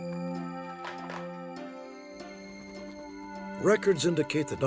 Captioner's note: phone receiver clicks